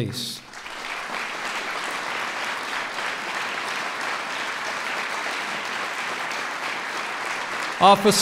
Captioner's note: applause